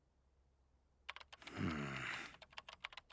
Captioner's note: keyboard clacking